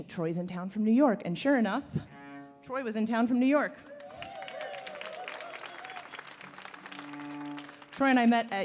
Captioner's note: applause